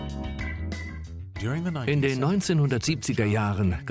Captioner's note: upbeat music; voiceover